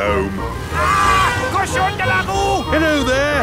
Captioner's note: yells